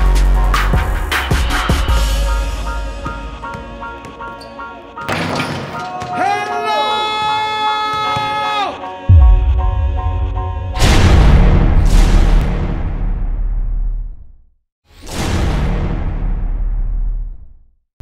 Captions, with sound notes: Hellooooooooooooooooooo (electronic sounds)